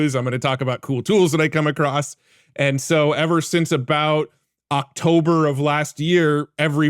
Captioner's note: none